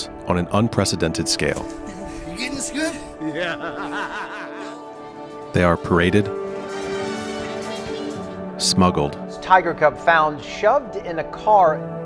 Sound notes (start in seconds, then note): 3.7 laughing; 6.5 circus music